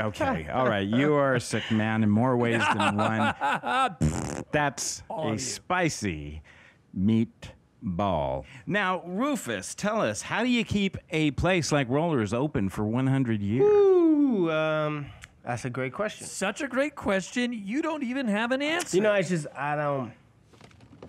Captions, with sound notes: Okay. All right. You are a sick man in more ways than one line. (Captain Dingus laughs) (blows raspberry) That's a spicy meat ball. Now, Rufus, tell us how do you keep a place like Rollers open for 100 years? Woo, um, that's a great question. Such a great question, you don't even have an answer. You know it's just, I don't...